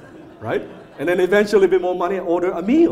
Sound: audience laughs

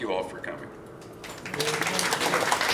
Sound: applause

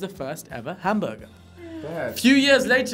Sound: exclaim

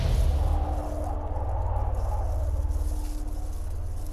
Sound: wind blows

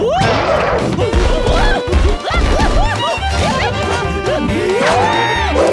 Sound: screaming

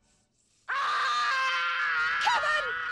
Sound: screams

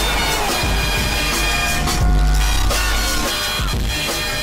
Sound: screaming

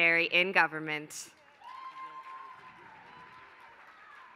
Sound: applause

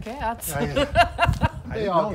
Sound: laughing

